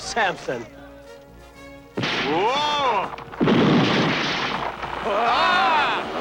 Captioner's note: cracking and grating noises